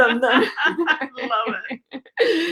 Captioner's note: laughing